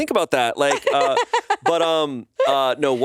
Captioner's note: laughs